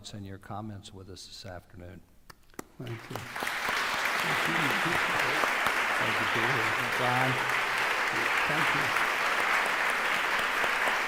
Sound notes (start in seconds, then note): 2.5 applause